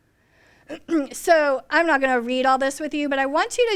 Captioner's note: coughs